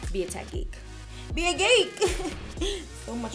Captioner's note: laughing